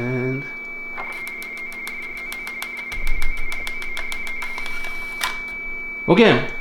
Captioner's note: Baudot tones